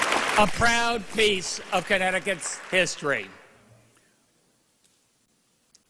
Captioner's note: applause